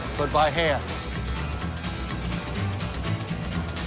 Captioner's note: factory ambience